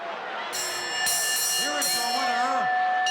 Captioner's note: bell ringing